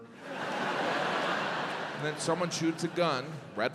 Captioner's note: audience laughs